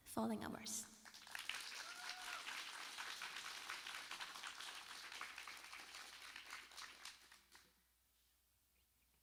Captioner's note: applauds